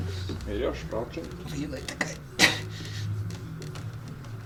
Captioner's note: out of breath, satisfaction